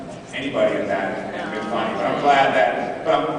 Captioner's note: sounds of disagreement